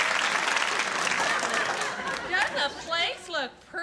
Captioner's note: applause